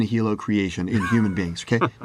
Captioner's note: laugh